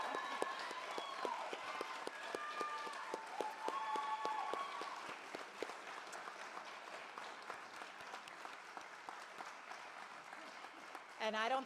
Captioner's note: cheers and Applause